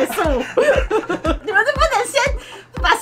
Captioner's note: laughter